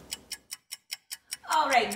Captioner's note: clock ticking